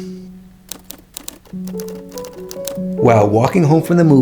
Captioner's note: typewriter typing